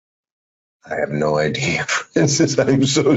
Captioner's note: laughing